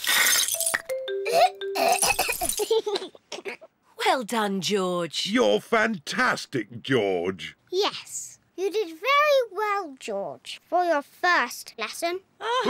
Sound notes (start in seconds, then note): 1.2 splutters; 1.8 giggles; 12.4 both laugh